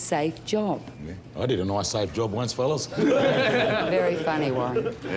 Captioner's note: men laugh